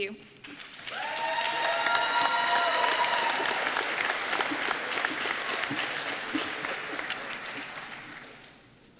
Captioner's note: applause